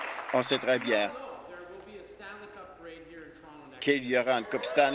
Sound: applause

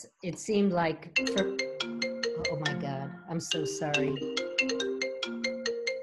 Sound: phone is ringing

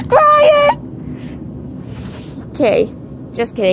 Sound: Cory Carson Crying Voice

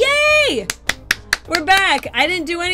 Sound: clapping

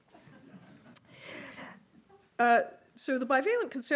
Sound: audience laughing

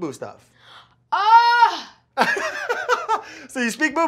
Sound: Keke shouts; laughs

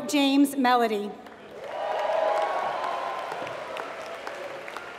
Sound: applause

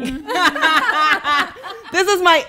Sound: laughing

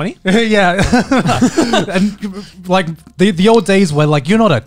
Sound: chuckling

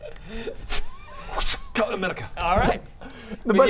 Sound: wrrcshh

